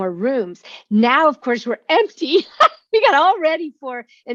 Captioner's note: laughs